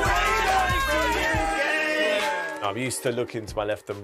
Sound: applause

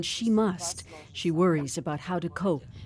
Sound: speaking Foreign Language

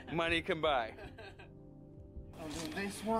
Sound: laughter

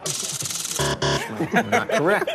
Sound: buzzer

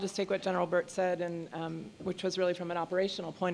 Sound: none

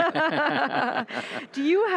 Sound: laughing

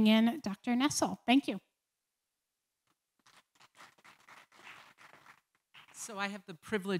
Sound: applause

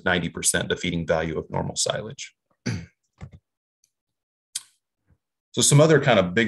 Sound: clears throat

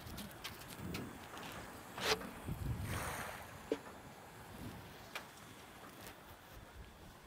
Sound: water splashing

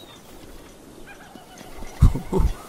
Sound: in game monke noises

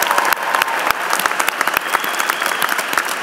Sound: applause

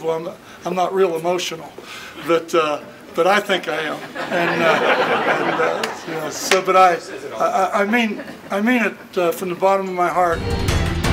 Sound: laughter

